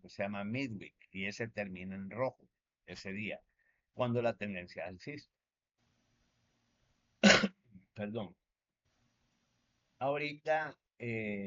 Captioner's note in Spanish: carraspeo